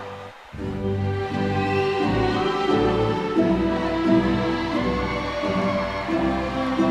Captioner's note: audience cheering